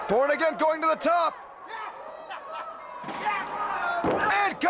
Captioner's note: crowd cheering